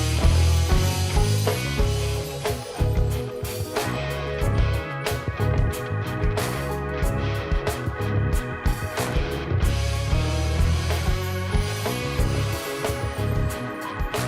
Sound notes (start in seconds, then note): 0.1 applause